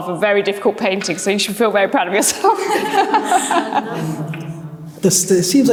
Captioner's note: laughs